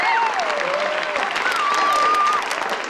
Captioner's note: yells